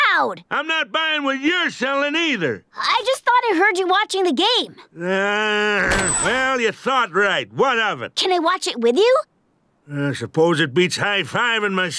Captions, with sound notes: I'm not buying what you're selling, either. I just thought I heard you watching the game. [groaning] Well, you thought, right? What of it? Can I watch it with you? I suppose it beats high fiving myself.